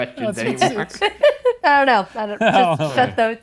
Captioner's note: laughing